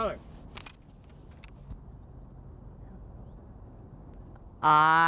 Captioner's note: metal of Guns Clicking